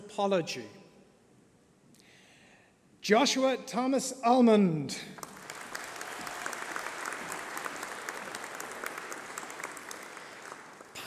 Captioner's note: applause